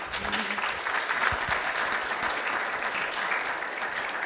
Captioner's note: audience applauds